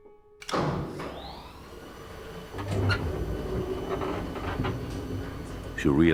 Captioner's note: elevator whirring